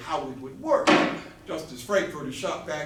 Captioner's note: gavel